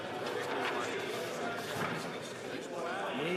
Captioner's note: speaking French